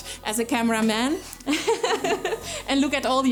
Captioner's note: laughs